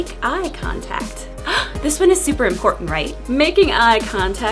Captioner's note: gasp